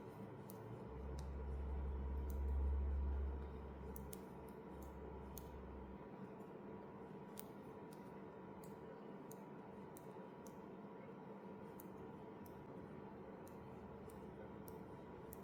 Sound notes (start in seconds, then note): 2.9 clickclack needle and air filter sounds